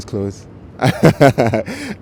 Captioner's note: laughs